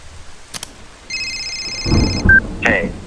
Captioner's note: phone rings